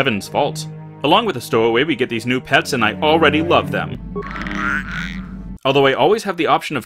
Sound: Gizka makes a cute noise

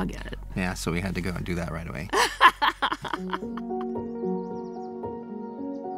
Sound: hearty laughter; uplifting piano melody

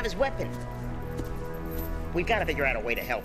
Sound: footsteps

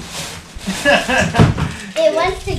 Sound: laugh

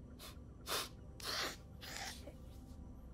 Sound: sobbing

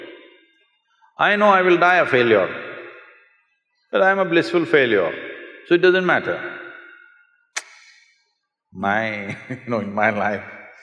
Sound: laughs

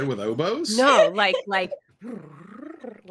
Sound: laughs

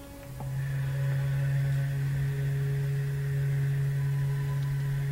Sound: steam whistle

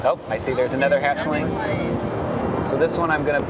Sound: voiceover

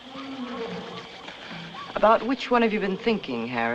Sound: animal Roars

